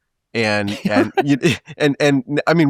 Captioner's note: laughing